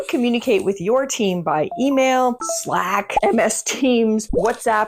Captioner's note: notifications ding